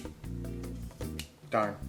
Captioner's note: clicking